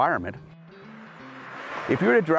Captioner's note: car whooshing